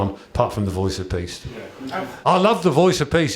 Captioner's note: chuckles